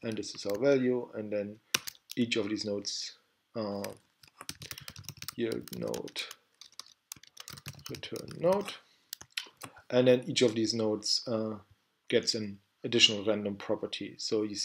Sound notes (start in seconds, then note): 6.5 typing